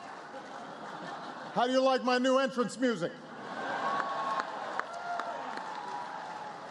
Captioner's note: applause; laughter; applause